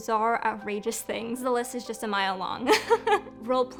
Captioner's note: laughing